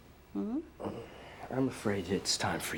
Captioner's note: Addison grunts